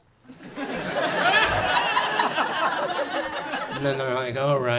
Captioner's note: audience laughs